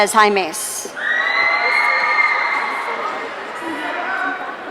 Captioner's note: audience cheering